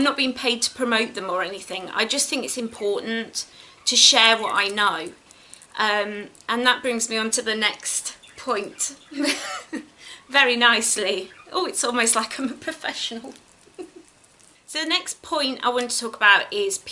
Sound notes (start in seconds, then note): 9.0 giggles